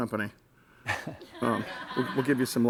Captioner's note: audience laughs